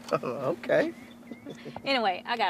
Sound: laughs

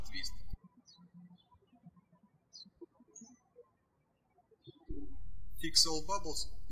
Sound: birds chirping

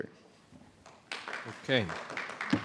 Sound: audience applauding

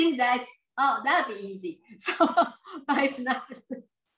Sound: laughs

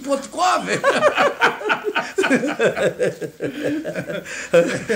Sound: all laugh

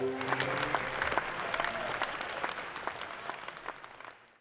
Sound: audience applauds

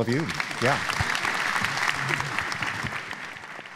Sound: applause

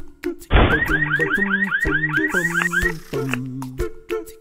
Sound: upbeat music; sound of siren; upbeat music

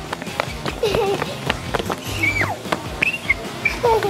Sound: shrieking

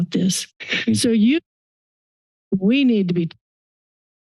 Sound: silence

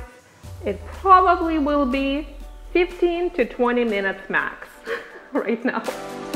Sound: laughs

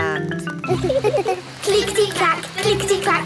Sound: laughing

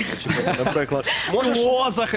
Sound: laughter

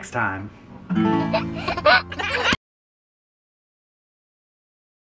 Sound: baby laughing

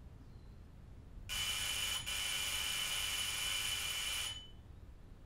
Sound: doorbell buzzes

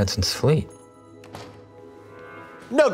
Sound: door jingle

